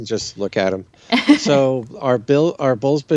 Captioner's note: chuckles